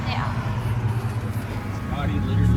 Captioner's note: engine revving